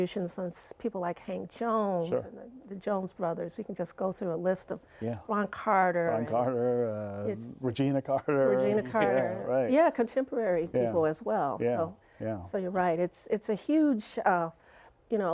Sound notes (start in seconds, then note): 8.0 laughter